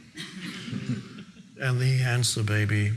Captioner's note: audience laughing